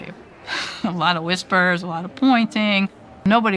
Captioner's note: laughs